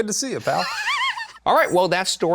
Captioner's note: laughs